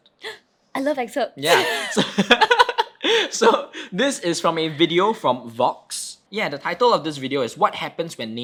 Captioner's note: both laughing